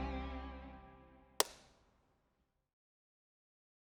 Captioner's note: clap